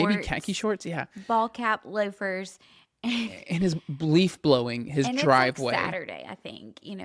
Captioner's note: laughs